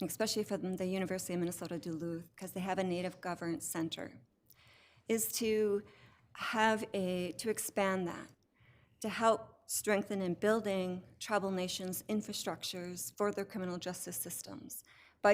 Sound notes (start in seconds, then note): none